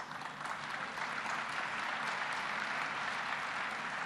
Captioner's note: applause